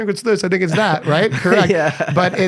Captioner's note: laughs